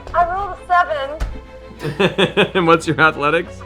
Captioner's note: laughs